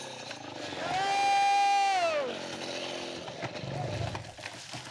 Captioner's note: logger shouting